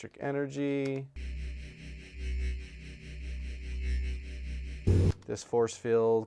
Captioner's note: electronic hum plays